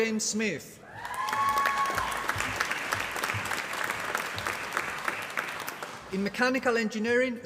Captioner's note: applause